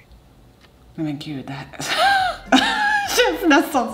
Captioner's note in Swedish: skrattar